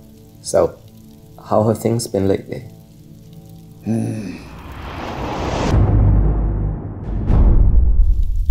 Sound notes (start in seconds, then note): 4.3 flashback swoosh